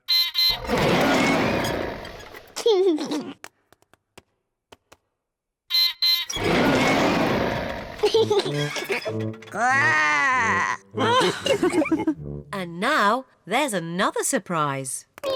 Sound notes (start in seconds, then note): 0.1 beeps and roars; 2.4 laughs; 5.6 beeps and roars; 7.9 laughs; 9.5 growls; 10.8 all laugh